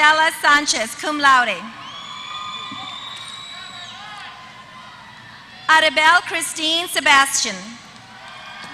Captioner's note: applause